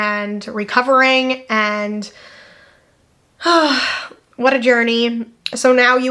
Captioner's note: sighs